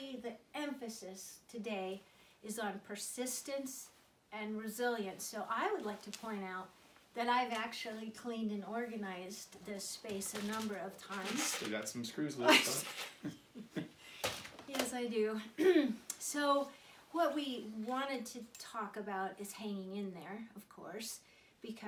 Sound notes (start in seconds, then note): 12.4 laughter